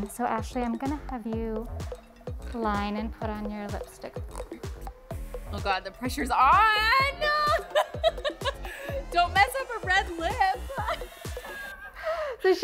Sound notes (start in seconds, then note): 7.3 laughing; 11.5 laughing